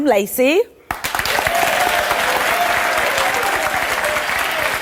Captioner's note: audience applause